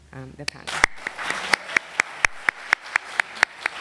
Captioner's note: applause